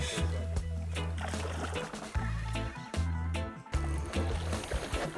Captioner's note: fish splashing